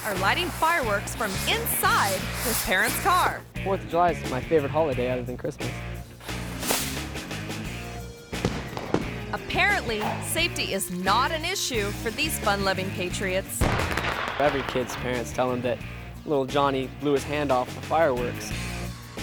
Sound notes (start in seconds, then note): 6.2 fireworks popping; 6.2 upbeat music